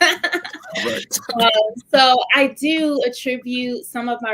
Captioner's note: laughter